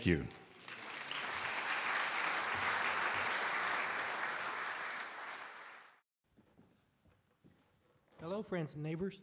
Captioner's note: audience Applause